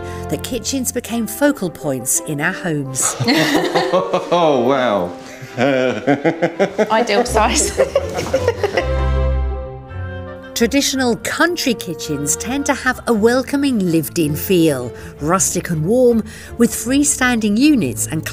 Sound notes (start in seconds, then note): 3.4 both laugh; 8.8 lighthearted music